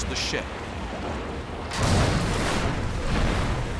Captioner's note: explosion